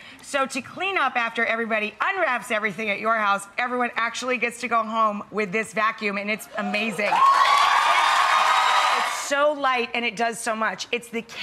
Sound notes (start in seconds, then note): 6.6 audience cheers